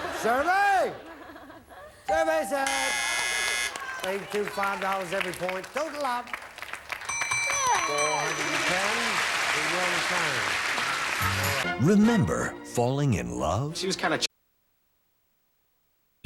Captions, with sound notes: Well, what am I saying? [audience laughing] Survey... Survey said... 82, $5 every point. Total of... $410. [audience applauding] We will return.